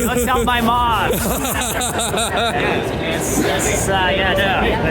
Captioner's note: laughing